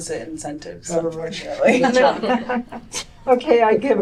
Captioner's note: laughter